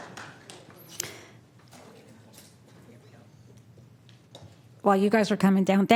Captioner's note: applause